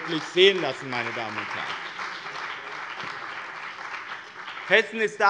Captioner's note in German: Beifall bei dem BÜNDNIS 90/DIE GRÜNEN und der CDU